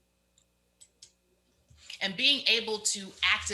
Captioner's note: mouse clicks